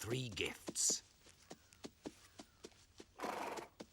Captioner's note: horses trotting; snorting